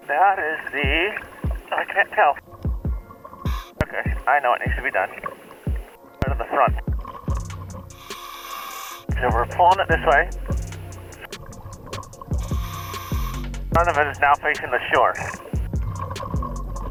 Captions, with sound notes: That is the-- I can't tell. Okay, I know what needs to be done. I'm at the front. (apparatus inhales) So we're pulling it this way. (apparatus inhales) Front of it is now facing the shore.